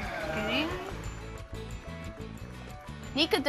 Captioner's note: Nica gurgles